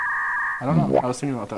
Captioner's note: dial up signal droning